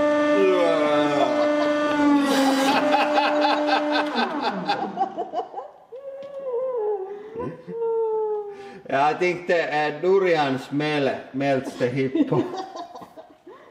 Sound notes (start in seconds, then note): 0.9 both: Laughing; 1.1 laughing; 6.0 muffled, inhale, sigh; 11.7 muffled, laughing